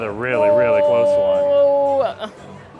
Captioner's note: gasps